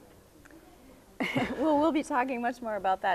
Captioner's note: both chuckling